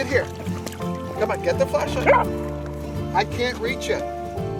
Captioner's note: dog barking